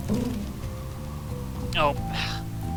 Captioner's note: sighs